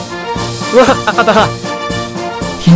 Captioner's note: laughing